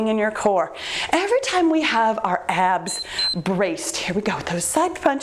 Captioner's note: timer beeps